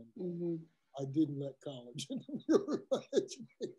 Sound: laugh

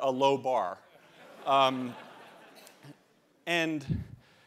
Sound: laughter

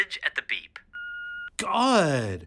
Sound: answering machine beeps

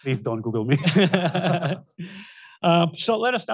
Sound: both laugh

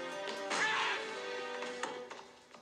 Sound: whack

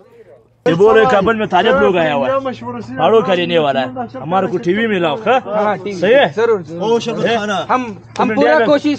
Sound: speaking Pashtu

